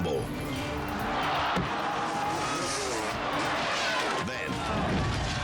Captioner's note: biker's body thuds